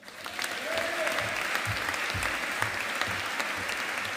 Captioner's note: audience applauding